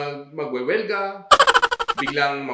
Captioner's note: laughter